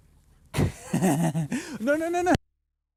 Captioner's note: laughs